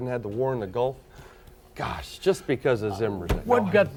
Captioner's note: laughing